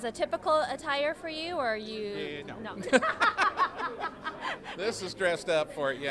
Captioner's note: both laughing